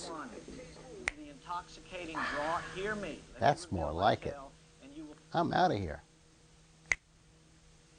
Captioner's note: snapping fingers